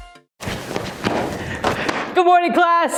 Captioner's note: quick Footsteps Approaching